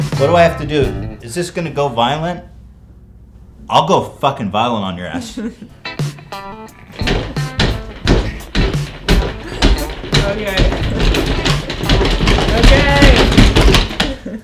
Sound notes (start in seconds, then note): 5.7 rhythmic Pounding of Thrusting Against The Chair; 9.4 laughs